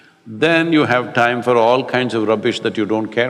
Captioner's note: none